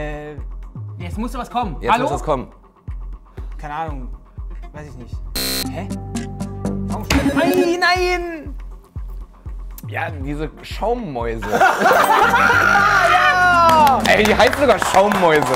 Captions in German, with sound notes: Jetzt muss was kommen. Hallo? Keine Ahnung, weiß ich nicht. (Buzzer) Nein! Nein! Ja, diese Schaummäuse. Die heißen sogar Schaummäuse.